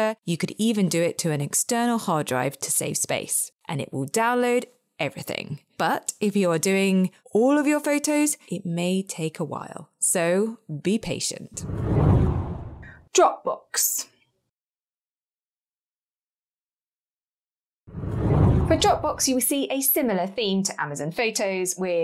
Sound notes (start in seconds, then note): 11.6 air whooshes; 17.9 air whooshes